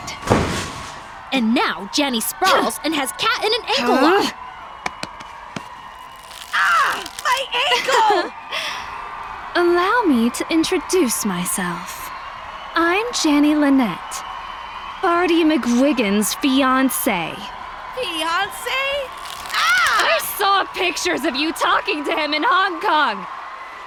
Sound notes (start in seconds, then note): 6.0 bone crack; 19.0 bone crack